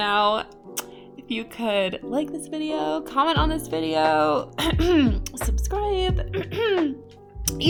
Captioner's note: cough